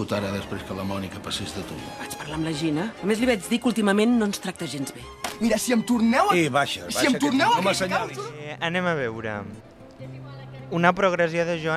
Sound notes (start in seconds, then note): 6.0 argument in Spanish